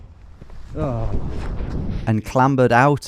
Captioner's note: groans